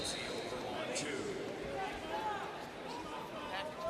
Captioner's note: crowd cheering